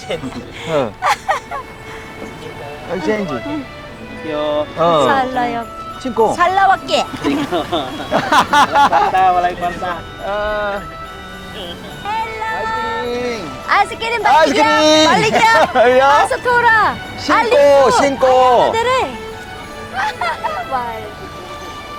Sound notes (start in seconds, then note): 0.0 everyone laughing; 6.8 everyone laughing; 14.0 joking in Bisaya